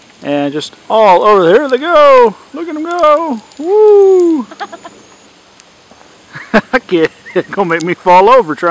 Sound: laughing

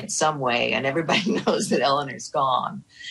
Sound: chuckling

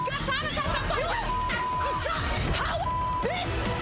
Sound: loud cussing

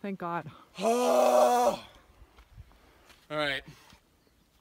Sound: grunting

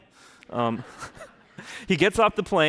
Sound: laughing

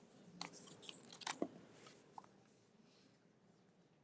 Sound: none

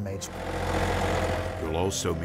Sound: machinery whirring

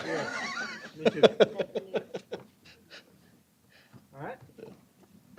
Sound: laughter

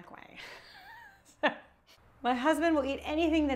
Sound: laughing

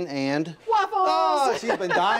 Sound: laughs

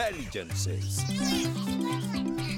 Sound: excited chattering

